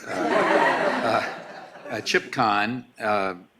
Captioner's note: laughing